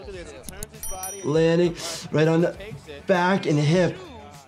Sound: bell ringing

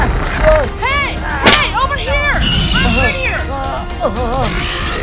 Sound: shot fired

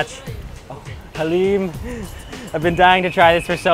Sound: chuckles

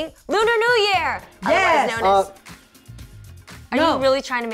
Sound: exclaims

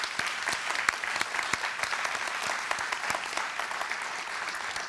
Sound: applause

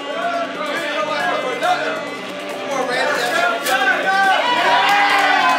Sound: crowd

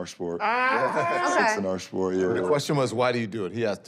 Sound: laughter

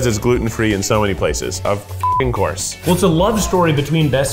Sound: beeps

